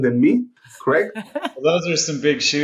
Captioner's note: chuckling